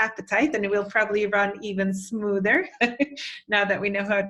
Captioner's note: chuckles